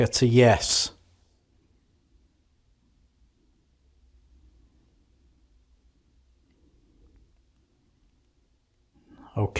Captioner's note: silence